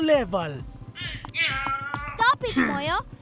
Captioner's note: angry grumbling